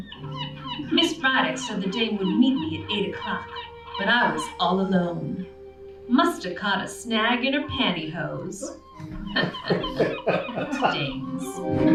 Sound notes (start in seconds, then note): 9.0 chuckles